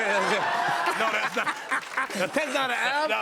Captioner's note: laughter